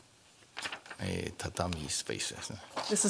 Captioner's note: speaking japanese